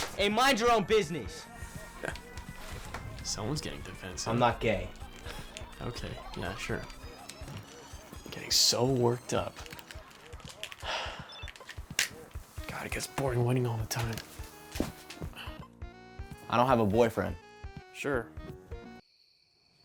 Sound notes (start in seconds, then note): 1.8 chuckles; 5.9 scoffs; 15.2 sighs